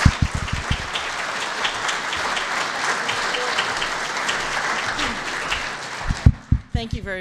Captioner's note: applause